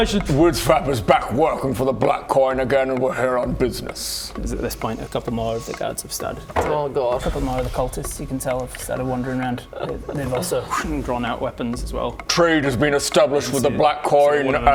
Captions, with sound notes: Whizzfap is back working for the Black Coin again and we're here on business! It's at this point a couple more of the guards have started Oh god! A couple more of the cultists you can tell have started wandering around and they've also... *swhoong* Drawn out weapons as well Trade has been established with the Black Coin and